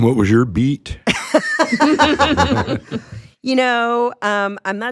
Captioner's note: group laughing